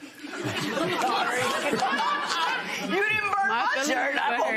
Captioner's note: laughter